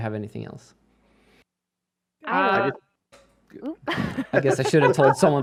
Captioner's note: chatter